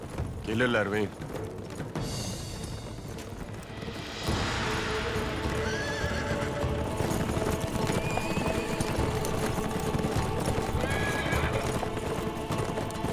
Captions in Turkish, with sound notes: Gelirler beyim. (At kişniyor) (Gerilim müziği)